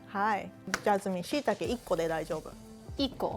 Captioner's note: speaking Japanese